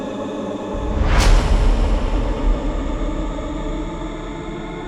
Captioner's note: intense dramatic music continues; image crashes; intense dramatic music continues